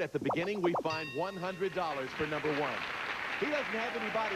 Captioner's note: audience applauding